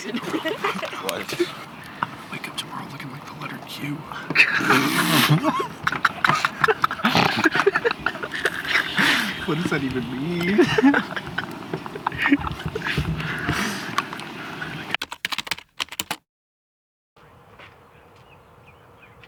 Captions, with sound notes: Ima wake up tomorrow, looking like the letter Q. [Laughter] What does that even mean? [Laughter] [Typewriter sounds] [birds chirping]